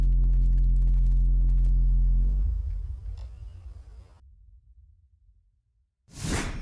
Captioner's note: footsteps crunching